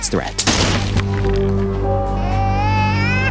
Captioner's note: gun firing; baby crying